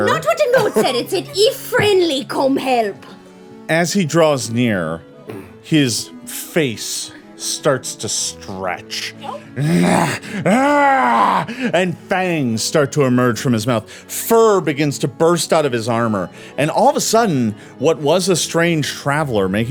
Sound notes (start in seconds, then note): 9.5 growling